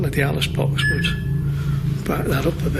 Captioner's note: beeps